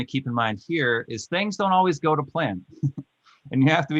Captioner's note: laughing